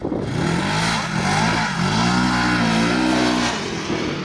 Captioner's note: engine roaring